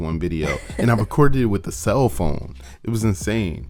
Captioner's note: laughs